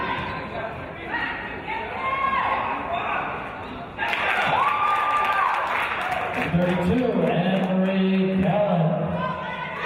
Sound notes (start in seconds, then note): 4.0 cheering and applause